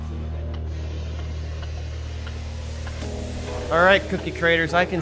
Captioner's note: spray paint whooshing